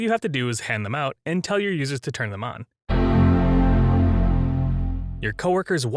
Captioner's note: macOS startup sound